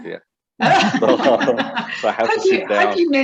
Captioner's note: laughs